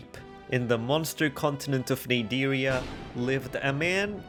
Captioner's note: thunder sfx